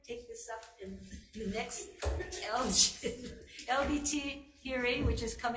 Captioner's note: laughing